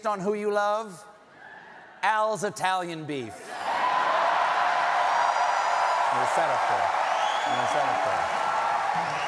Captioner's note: cheering